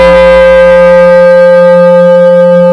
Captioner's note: bell